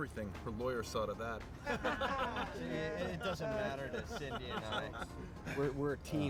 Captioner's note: all laughing